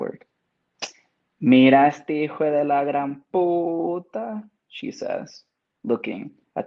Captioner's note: speaks in Spanish